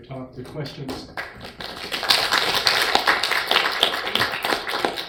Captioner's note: all applaud